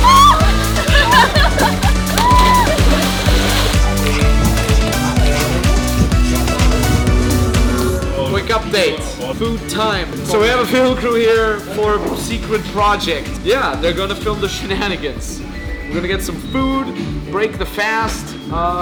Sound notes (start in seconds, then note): 0.1 girl screams; 2.3 man splashes in pool; 3.1 girls laugh and cheer; 4.2 upbeat music